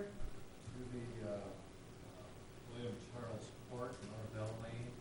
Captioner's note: audience member speaking off-mic